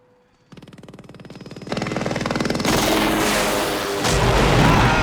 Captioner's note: helicopter approaching